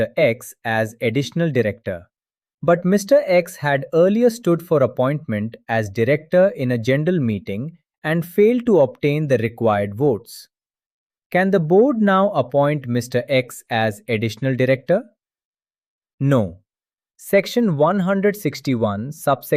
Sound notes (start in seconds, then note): 12.0 thoughtful